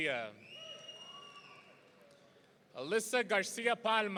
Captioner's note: audience cheering